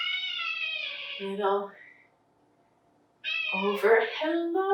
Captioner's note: cat meowing